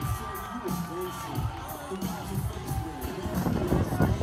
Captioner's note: people cheering